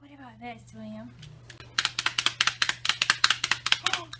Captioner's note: toy claps